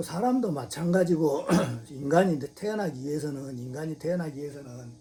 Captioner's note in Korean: 목을 가다듬음